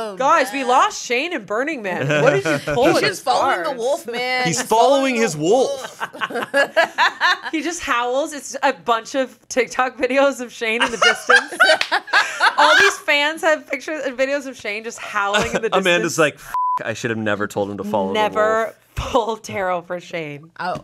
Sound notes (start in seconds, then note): 5.8 everyone laughs; 10.8 everyone laughs; 16.5 beep